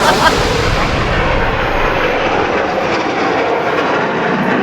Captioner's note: engine revving